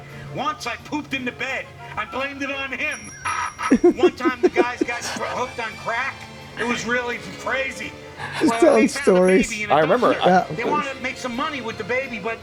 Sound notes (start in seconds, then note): 3.3 Frank laughs loudly